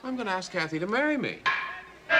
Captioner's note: bat strikes